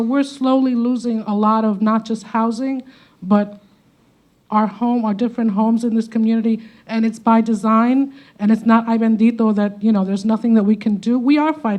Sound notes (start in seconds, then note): 9.1 speaking Spanish